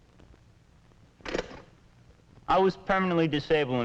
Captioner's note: wheelchair lock clicking